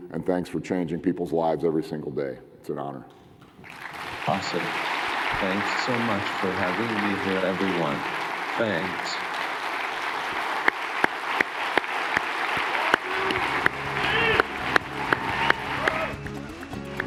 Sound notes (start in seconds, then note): 3.9 audience cheering and applauding